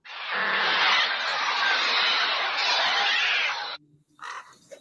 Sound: birds cawing

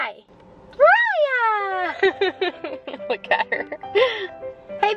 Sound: laughing

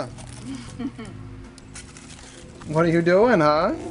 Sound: woman chuckles

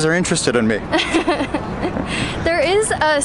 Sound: chuckling

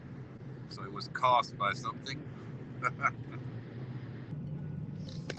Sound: laugh

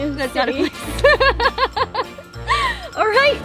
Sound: laughs

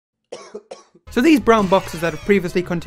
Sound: man coughs

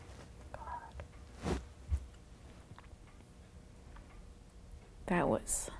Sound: whispers

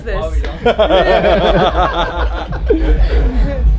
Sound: laughing

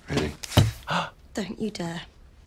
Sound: Katya gasps

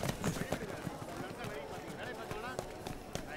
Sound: indistinct chatter

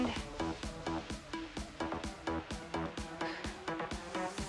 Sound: breaths

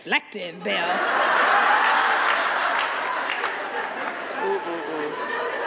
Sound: audience uproars with laughter

